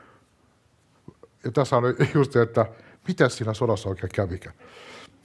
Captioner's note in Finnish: naurua